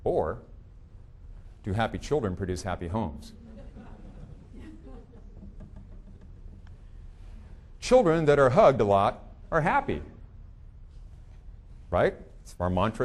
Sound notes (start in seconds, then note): 3.3 audience chuckling